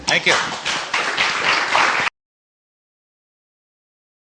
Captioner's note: applause